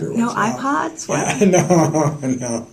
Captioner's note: laughter